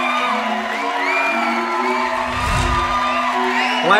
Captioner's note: applause